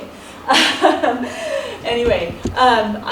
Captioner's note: laughs